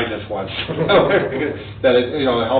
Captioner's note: both laugh